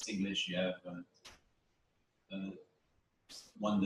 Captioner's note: pause